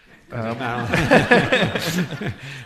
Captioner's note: laughing